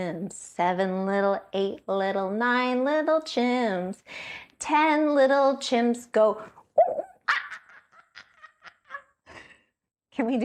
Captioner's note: chimp noises